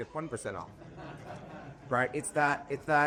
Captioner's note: laughing